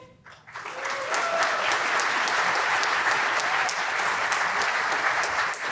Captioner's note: applause